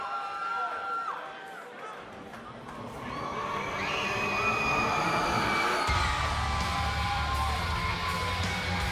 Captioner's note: cheers and applause